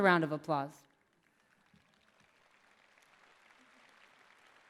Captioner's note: clapping